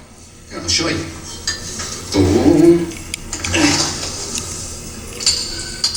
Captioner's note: grunts, hammering coal